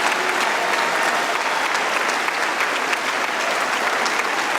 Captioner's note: cheering & Applause